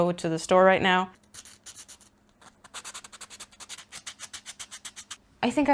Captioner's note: sanding noises